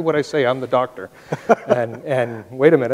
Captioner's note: laughs